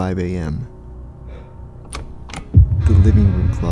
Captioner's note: door knob turning